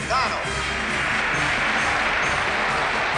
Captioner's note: cheers erupt